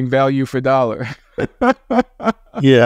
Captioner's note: laughs